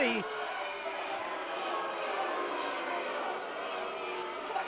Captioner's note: crowd chatter